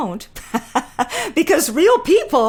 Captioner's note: laughing